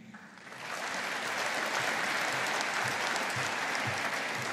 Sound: audience applauding

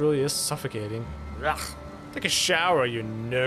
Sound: utter disgust

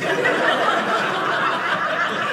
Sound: audience laughing

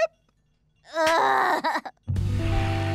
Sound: groaning

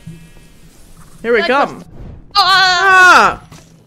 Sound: both AHHHHHH

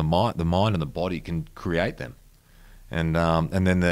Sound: none

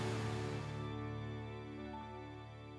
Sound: rain stops

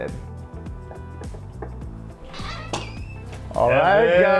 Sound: knocking

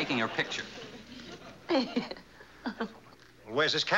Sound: giggling

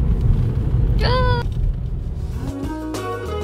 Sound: burning

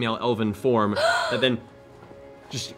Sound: gasps

